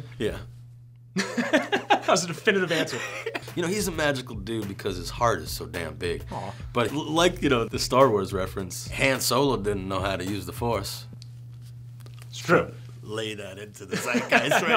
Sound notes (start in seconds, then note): 1.1 laughter